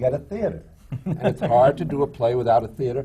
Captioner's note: laughter